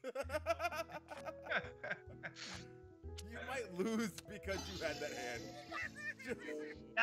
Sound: laugh

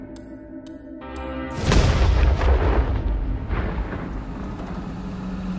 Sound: explosion resounding

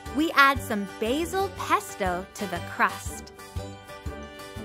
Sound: none

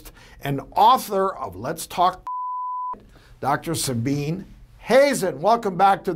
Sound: beep

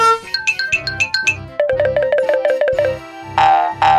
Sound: cartoonish rattling; bells twinkling; spring boinging

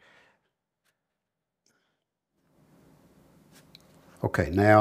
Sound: silence

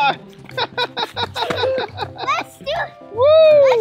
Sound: laughs

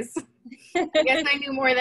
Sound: laughter

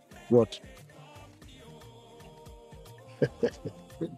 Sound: laugh

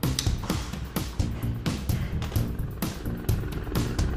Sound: sighs

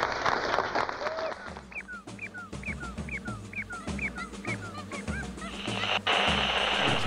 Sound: animal noises

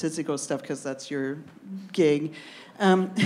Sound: laughs

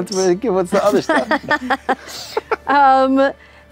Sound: laughter

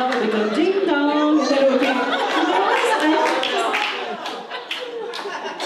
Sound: audience laughs

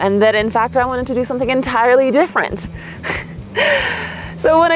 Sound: chuckles

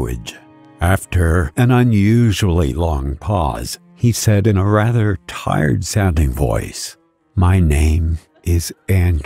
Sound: he said in a rather tired-sounding voice

